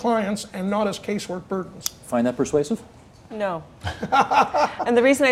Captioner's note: laughter